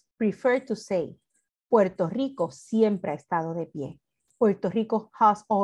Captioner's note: speaks in foreign language